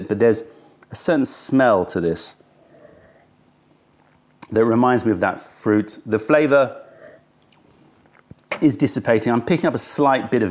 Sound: sips tea

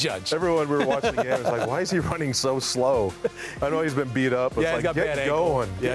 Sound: laughter

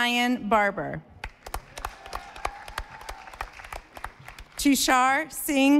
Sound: audience applauding

